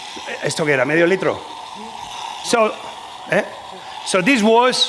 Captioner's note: speaking spanish